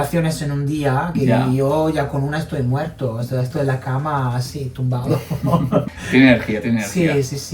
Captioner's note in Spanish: risas